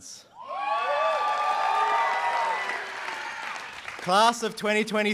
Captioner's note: cheering and applause